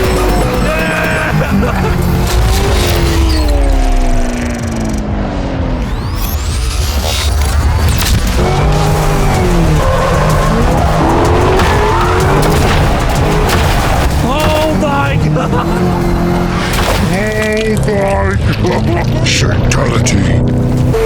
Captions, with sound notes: Yeah! (loud splatter) (laughing) - Shaketality.